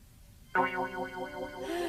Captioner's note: sighing